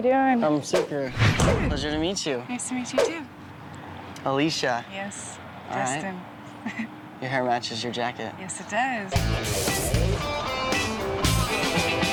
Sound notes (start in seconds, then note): 6.5 chuckles; 9.1 funky rock music